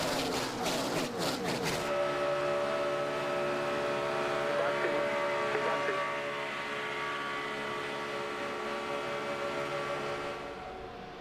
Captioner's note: engines roar